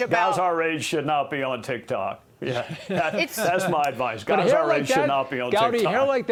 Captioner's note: laughter